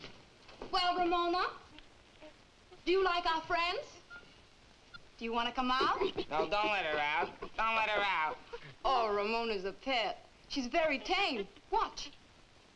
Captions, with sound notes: Well, Ramona? Do you like our friends? Do you want to come out? (Ramona grunting) - No, don't let her out. Don't let her out. - Oh, Ramona's a pet. She's very tame. Watch.